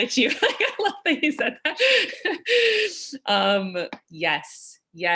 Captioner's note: laughing